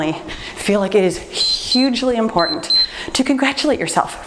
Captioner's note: timer beeps